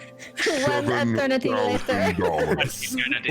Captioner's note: deep voice